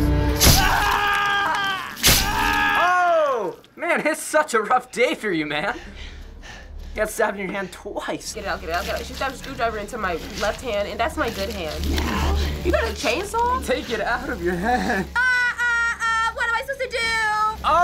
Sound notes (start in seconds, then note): 0.5 screwdriver impales, Ethan screams in agony; 5.8 Ethan panting